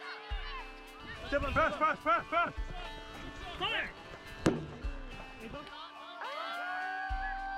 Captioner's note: people shouting; lively music